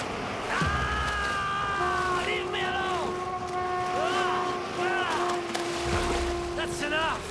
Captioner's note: screams